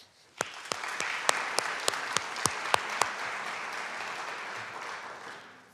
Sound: audience clapping

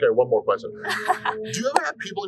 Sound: laughter

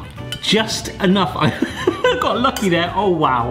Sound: laughs

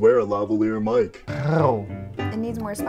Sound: weird purring thing

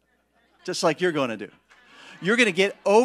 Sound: congregation laughing

